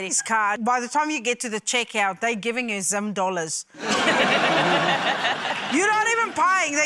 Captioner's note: laughter